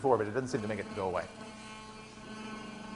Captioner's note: buzzing continues